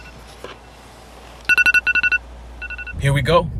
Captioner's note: alarm chimes